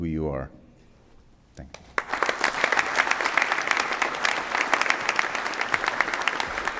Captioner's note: applause